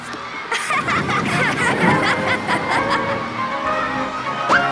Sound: everyone gasps; everyone laughs

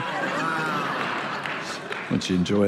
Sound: congregation laughing

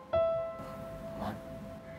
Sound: mumbles

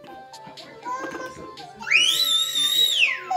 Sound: screaming!

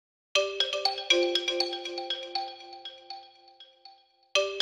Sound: soft bells chime

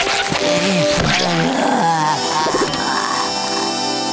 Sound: groaning

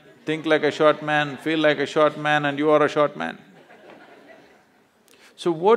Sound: laughter

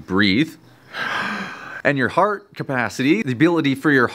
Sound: loudly inhaling

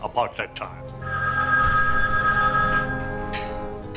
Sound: phone ringing

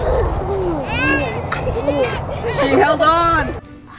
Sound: baby cries

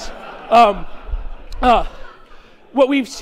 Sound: chuckling

